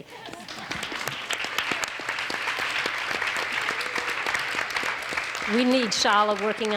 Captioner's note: audience applauds; audience cheers